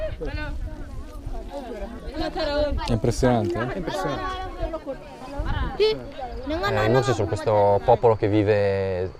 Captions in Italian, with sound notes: - È impressionante, eh? - È impressionante. (voci di sottofondo) I Mursi sono questo popolo che vive